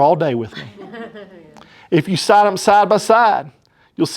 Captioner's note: laughter